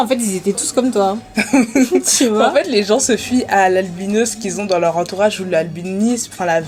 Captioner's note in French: rires